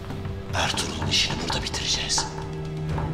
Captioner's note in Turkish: Masaya vurma sesi